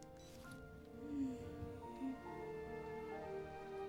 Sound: sighs

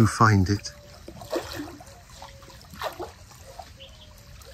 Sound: water lapping

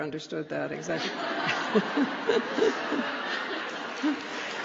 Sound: laughter

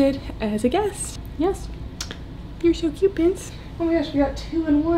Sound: kissing

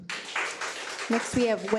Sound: audience applauds

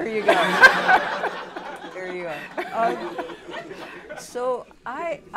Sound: laughter

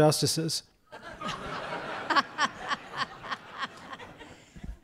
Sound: audience laughs

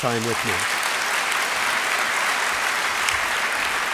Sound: applause

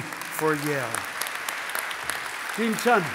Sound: audience applauding

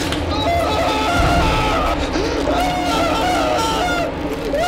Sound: suspenseful music; driver screaming

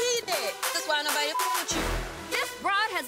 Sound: beep

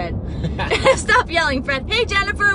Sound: both laughing

